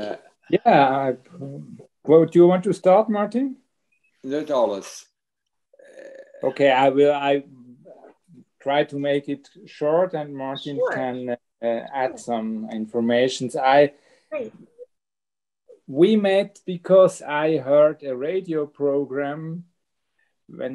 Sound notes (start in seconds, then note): 4.3 speaks foreign language